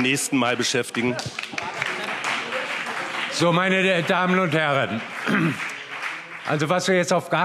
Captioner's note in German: Heiterkeit und Beifall BÜNDNIS 90/DIE GRÜNEN